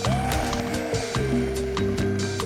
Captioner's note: static buzzing